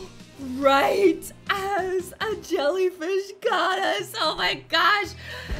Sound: gasps

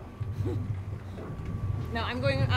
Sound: chuckling

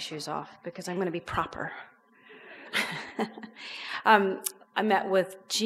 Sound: laughs

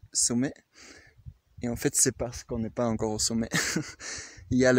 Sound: laughs

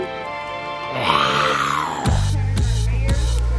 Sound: dad roars; upbeat music

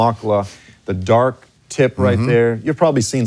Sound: speaks in foreign language

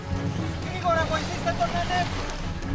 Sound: shouting in Greek

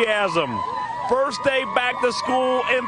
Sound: cheering and applause

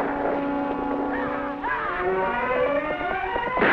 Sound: yelling

